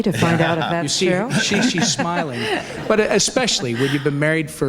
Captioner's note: audience laughs